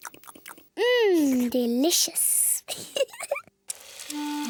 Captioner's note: giggles